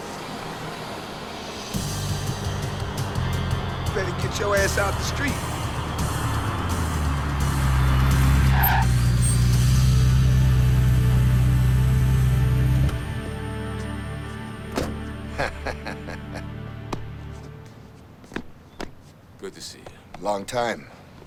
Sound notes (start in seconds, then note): 8.6 tires screech; 15.2 Dash laughs